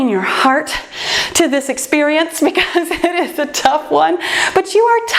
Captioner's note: laughs